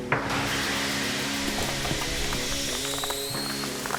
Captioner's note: ceiling crashing